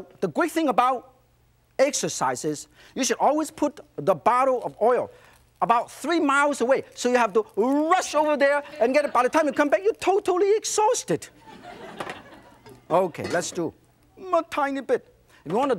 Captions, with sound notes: The great thing about exercise is, you should always put the bottle of oil about three miles away. So you have to rush over there and get it. By the time you come back, you're totally exhausted. (audience laughs) Okay, let's do a tiny bit.